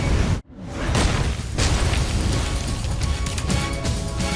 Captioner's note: logo slams; dramatic music